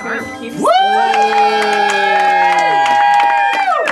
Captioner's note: cheering